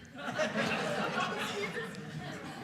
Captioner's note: audience laughing